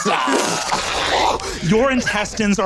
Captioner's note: vocalizes explosion